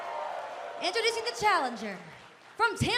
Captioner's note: cheers and applause